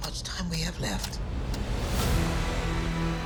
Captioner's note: clock ticking